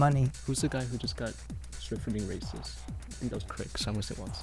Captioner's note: wispering